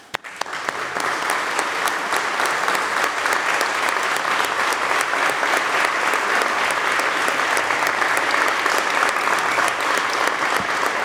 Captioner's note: applause